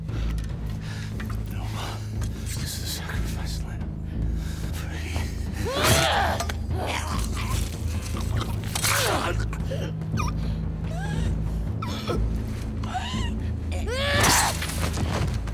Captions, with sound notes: [Seraphite mumbling] Noma is the sacrifice... free. [Machete hacking into flesh] [Choking noises]